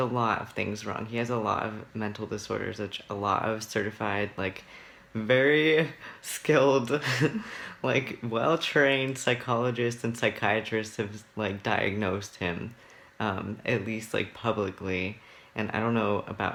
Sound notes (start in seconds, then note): 7.0 laughs